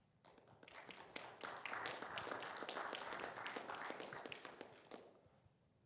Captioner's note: audience applauding